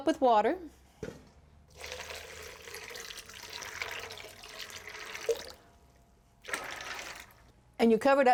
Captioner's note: pouring Water